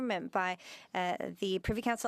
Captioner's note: speaking French